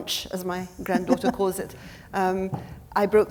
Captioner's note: laughing